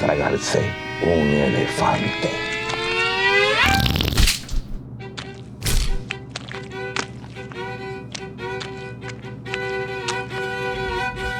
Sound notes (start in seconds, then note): 2.7 farting; 2.7 splat; 2.7 violin playing